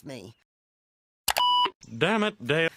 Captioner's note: arrow Clicks